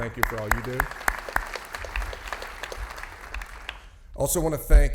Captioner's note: audience applauding